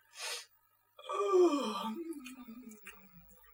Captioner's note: yawns